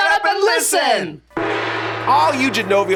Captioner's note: gong